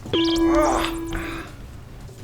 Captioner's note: detector chimes